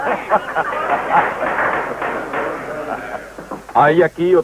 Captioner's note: gavel pounding